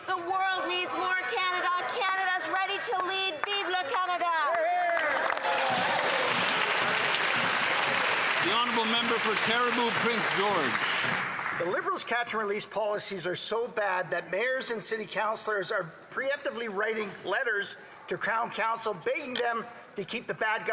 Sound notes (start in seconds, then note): 8.4 some Applause